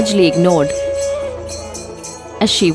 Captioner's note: bell jingles